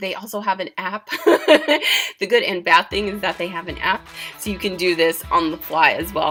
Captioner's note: giggling